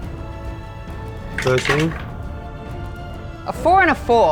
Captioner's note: dice rattling